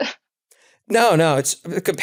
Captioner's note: laugh